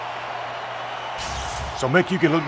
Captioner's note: electricity crackling